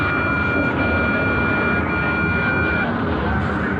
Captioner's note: siren wailing